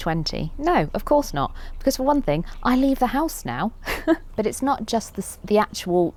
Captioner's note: laughs